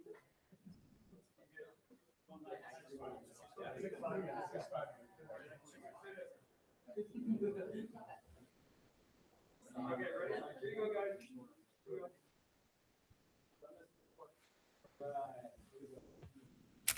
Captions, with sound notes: (group chuckling) >>Okay, ready? Here we go, guys.